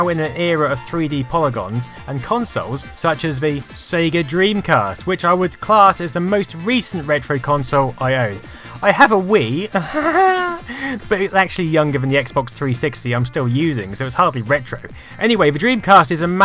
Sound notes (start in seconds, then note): 9.8 snigger